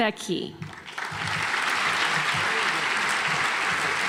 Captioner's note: audience applauds